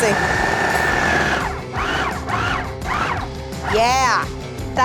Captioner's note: food processor whirring